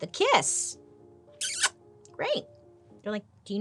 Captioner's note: lips smacking